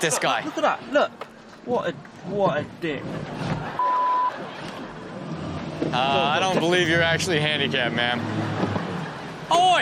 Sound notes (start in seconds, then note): 3.3 audience laughs; 3.8 beep